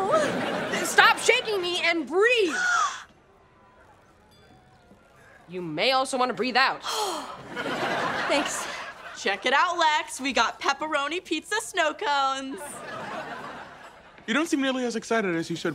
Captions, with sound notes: Stop shaking me and breathe. [gasps] You may also want to breathe out. [exhales] Thanks. Check it out, Lex, we got pepperoni pizza snow cones. You don't seem nearly as excited as you should be.